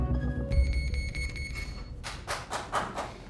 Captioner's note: beeping